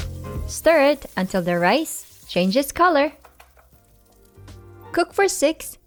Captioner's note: oil sizzling; spatula thudding